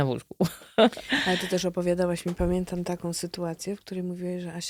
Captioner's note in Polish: śmiech